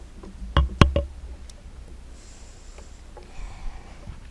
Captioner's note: light clattering